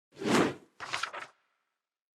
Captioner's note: logo whooshes; paper rustling